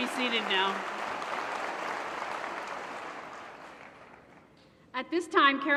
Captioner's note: applause